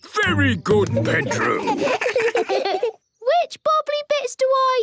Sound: children giggle

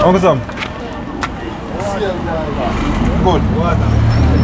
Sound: background conversations

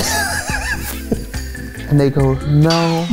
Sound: laughing

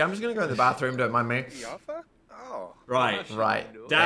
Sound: speaking Simlish

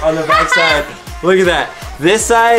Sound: laughs

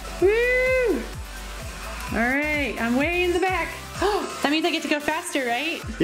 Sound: gasps

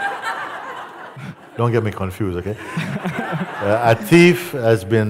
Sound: laughter; laughter

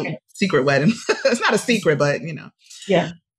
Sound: laughs

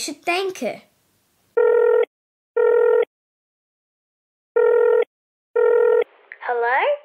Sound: phone ringing

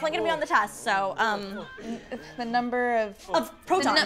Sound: men moaning

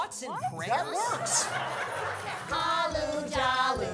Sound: audience laughing

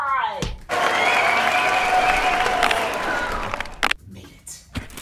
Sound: people clapping and cheering

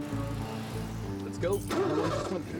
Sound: starts car

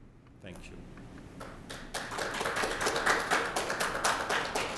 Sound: applause

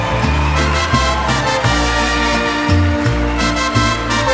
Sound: Aplausos

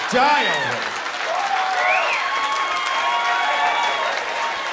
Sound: cheering and applause

